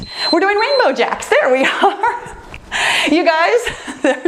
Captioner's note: timer beeps; giggles